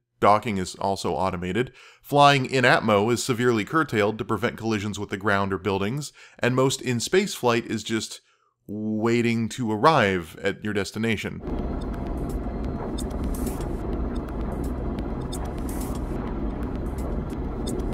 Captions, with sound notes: Docking is also automated. Flying in-atmo is severely curtailed to prevent collisions with the ground or buildings, and most in-space flight is just... waiting to arrive at your destination. (space-flight noise)